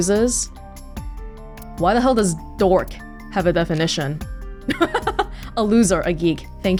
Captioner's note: chuckles